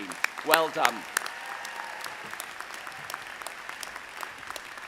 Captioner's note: audience applauding